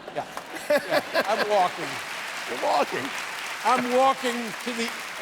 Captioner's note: laughter